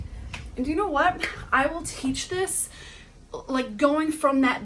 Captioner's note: person claps